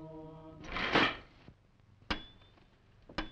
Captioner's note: item clattering; glass tapping